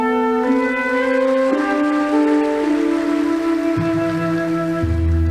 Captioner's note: audience applauding